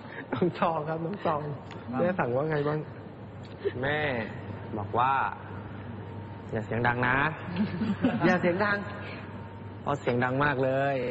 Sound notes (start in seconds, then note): 7.6 laught